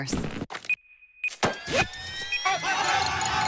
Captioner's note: timer beeps; athletes yell